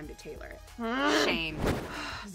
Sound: groans

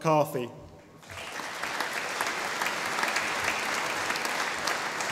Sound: audience applauding

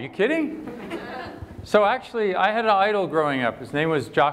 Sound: laughter

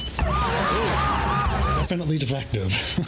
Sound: sirens

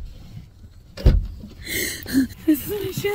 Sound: trunk opens

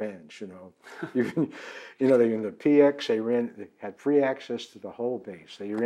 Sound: laughs

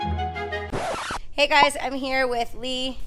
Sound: record scratching

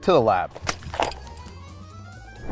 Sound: notebooks thudding

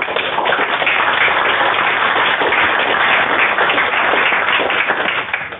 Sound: applause

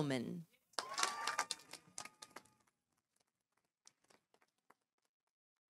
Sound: audience applauding

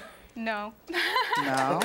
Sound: laughs

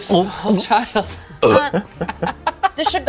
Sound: imitates crunching food; belches

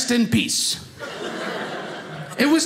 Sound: audience laughing

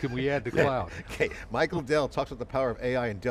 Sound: laughing

